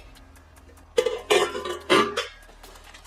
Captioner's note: sound of plates clanking together